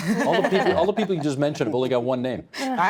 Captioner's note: all laughing